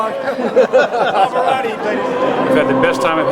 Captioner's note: men laughing; laughs